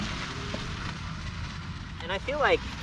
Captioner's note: eBike motor revving